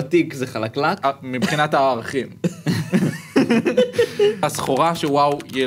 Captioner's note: laughs